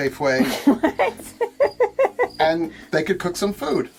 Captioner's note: laughing